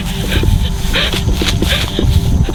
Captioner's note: kayla breathing heavy